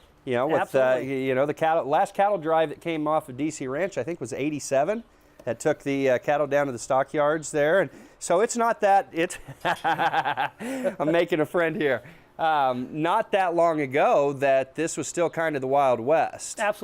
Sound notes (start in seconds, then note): 9.3 laughs